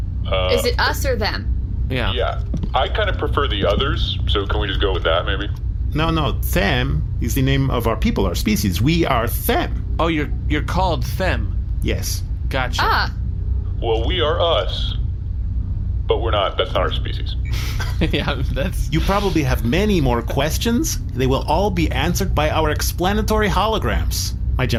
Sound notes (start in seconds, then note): 17.4 laughing